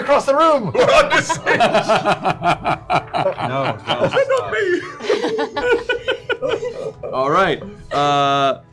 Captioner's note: laughter